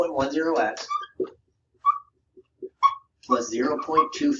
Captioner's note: marker squeaking